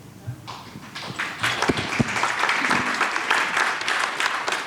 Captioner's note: audience applauds